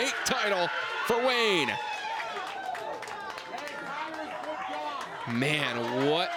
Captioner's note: crowd cheers and applauds